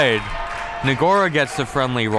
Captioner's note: crowd clapping